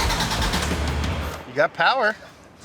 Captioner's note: engine revs